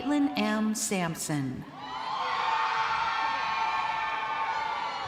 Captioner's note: crowd cheering